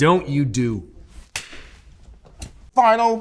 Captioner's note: hands smack